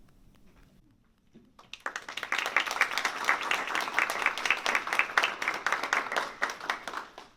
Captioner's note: applause